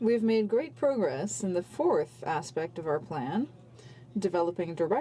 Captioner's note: speaking French